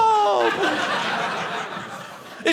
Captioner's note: audience laughing